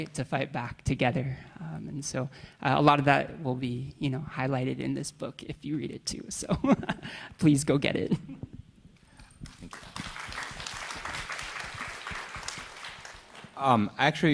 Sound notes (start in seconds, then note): 6.6 chuckles; 9.4 audience applauding